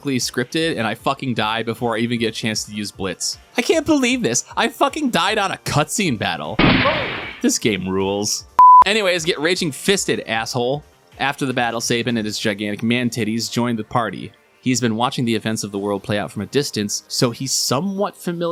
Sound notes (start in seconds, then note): 6.6 gunshot